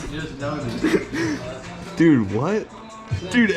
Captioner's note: haha